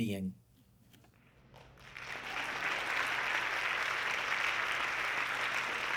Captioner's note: audience clapping